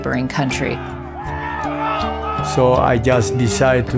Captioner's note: people cheering